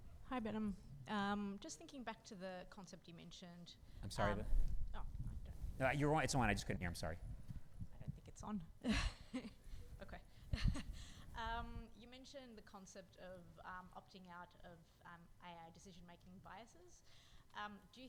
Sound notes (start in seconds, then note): 10.6 chuckles